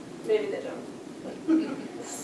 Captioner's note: laughter